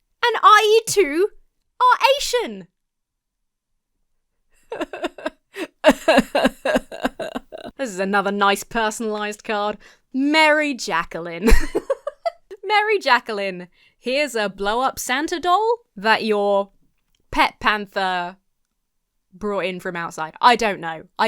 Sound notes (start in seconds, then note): 4.6 half-laughs, half-sobs; 11.4 laughs